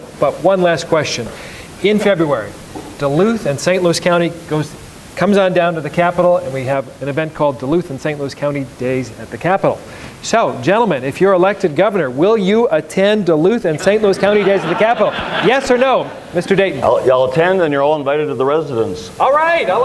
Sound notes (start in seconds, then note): 13.7 audience laughs